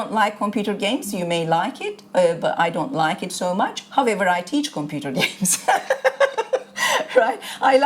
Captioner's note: laughter